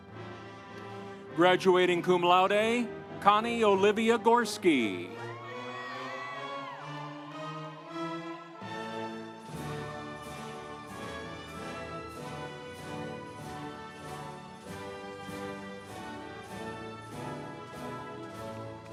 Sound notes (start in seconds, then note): 6.6 audience cheering; 6.6 instrumental music